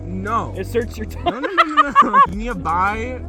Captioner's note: laughs